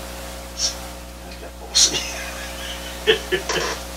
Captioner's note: laughs